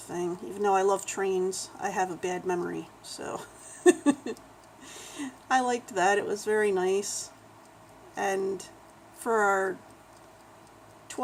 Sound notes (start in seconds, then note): 3.6 laughs